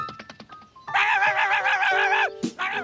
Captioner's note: barking